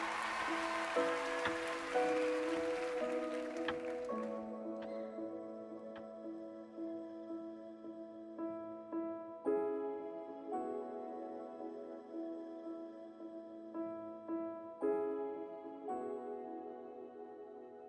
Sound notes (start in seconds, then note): 2.6 cheering